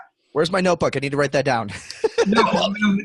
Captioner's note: laughing